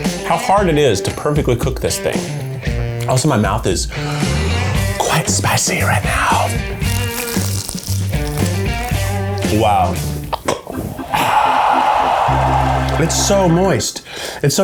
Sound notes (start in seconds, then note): 6.0 crunching; 10.8 audience cheers; 10.9 baseball thunks